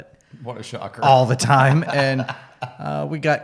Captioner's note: laughs